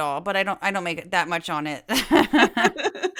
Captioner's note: laugh